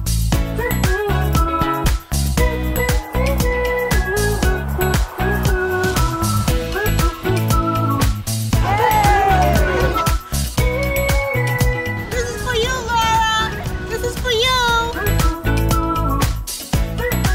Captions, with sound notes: (walkers cheering) - This is for you, Laura. This is for you.